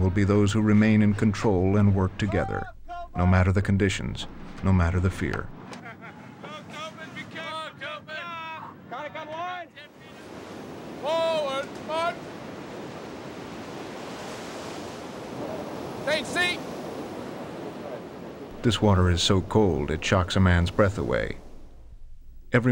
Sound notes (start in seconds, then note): 6.7 shouting orders; 11.3 voiceover; 19.2 voiceover